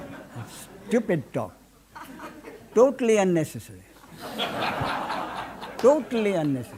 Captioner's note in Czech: smích